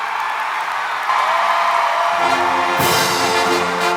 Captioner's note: applause